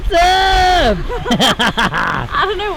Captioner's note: laughing